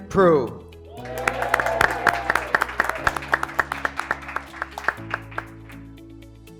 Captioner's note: graduates cheering; graduates clapping